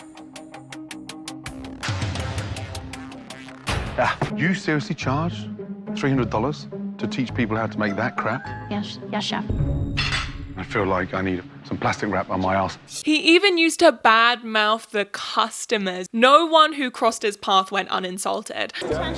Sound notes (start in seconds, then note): 0.1 suspenseful music; 3.9 Gordon spits